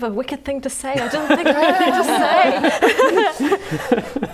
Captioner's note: laughing